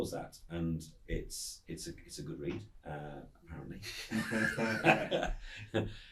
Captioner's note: laughs